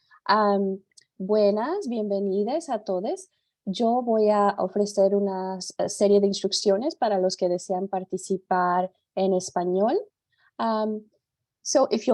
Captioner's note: speaks in Spanish